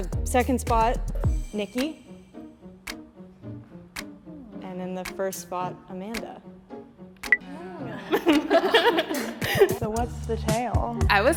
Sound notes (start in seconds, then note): 2.7 playful music; 7.9 all chuckles